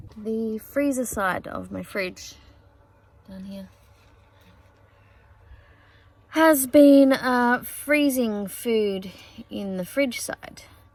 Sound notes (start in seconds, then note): none